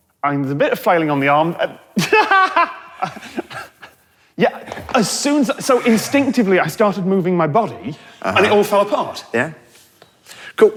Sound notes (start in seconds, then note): 2.0 laughs